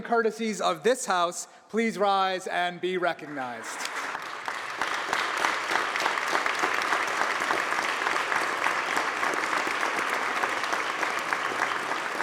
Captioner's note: applause